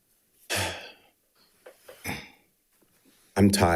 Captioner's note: sighing